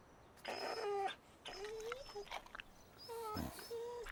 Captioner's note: Buck whining